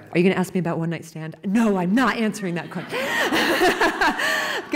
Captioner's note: laughter